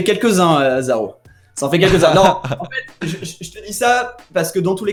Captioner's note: laughs